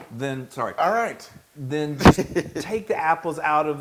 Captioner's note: laugh